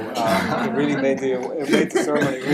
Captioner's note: laughter